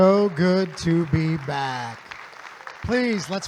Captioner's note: audience applauding